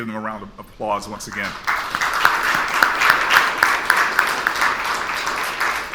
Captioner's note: audience applauds